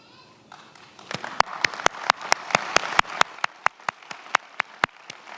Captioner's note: many applauding